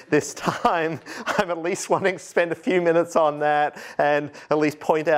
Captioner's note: laughter